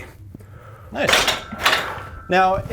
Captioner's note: metal clunking